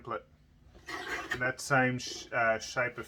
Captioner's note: screeching